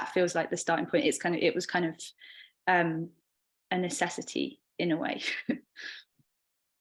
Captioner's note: chuckling